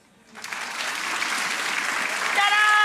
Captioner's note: audience applauds